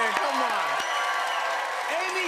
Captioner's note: cheers and applause